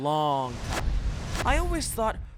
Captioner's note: whooshing sounds